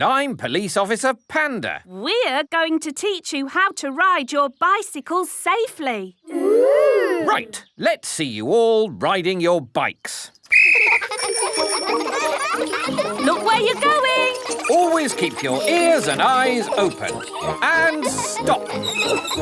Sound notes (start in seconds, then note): 10.4 blows whistle; 11.6 giggling and ringing bells